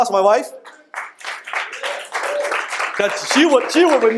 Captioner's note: audience applauds